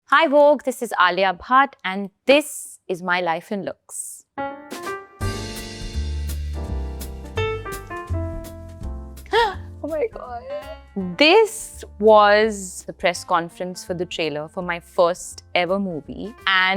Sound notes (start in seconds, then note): 4.4 relaxed jazz music; 9.3 gasps